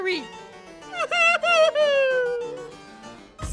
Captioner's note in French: pleurs